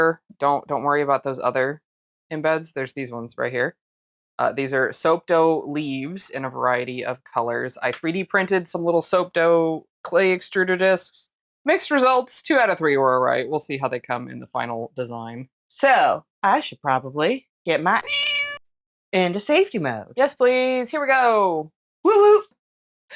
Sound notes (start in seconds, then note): 18.0 meow